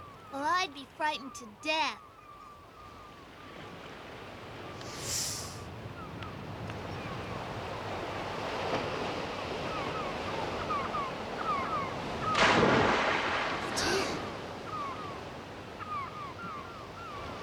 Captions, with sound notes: Well, I'd be frightened to death. (INHALES) (GASPS)